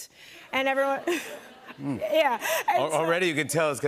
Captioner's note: laughter